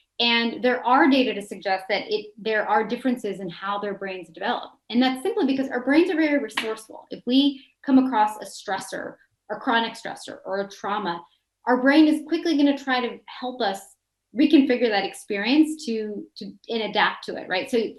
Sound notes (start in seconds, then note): none